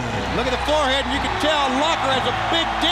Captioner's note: crowd cheering